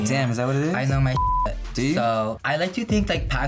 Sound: beep

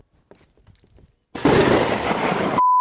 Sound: lightning strikes

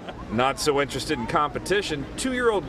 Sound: laughter

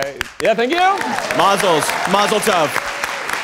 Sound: audience applauding

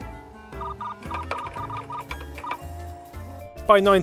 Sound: keyboard and modem sounds

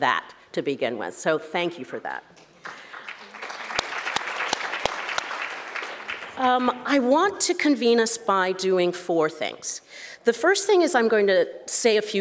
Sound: claps

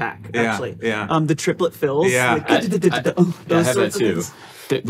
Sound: imitating a drum set

